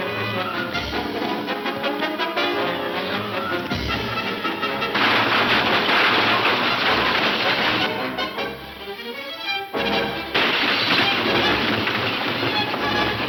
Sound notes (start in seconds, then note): 8.2 gun shooting; 9.5 intense instrumental music